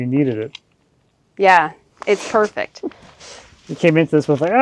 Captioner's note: chuckling